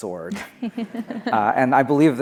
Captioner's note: laughing